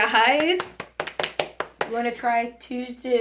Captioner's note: applauds